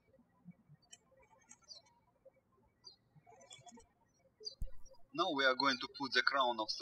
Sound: birds chirping

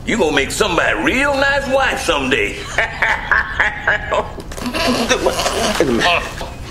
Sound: chuckling

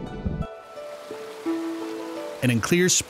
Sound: water rushes

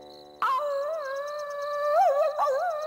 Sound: howling

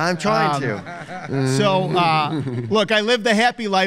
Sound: laughs

